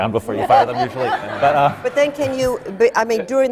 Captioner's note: laughter